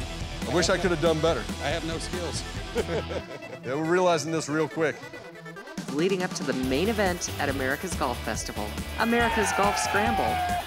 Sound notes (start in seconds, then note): 2.5 both laugh; 9.0 cheers and applause